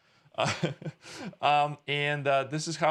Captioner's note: laughing